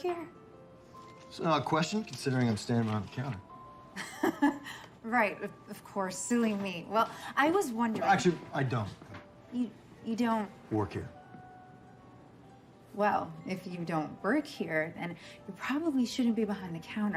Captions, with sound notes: That's an odd ququestion considering I'm standing behind the counter. (laughing) Right. Of course, silly me. Well, I was wondering-- Actually, I dodon't. - You don't-- - Work here. Well, if you don't work here, then you probably shouldn't be behind the counter.